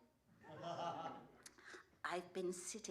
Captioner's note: laughter